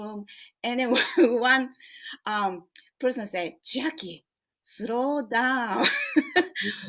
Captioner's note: laughs